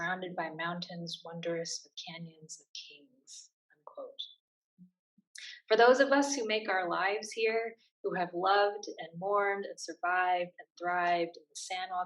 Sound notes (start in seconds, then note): none